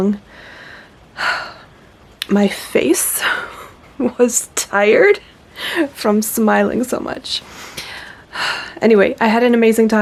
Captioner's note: happy sigh; happy sigh again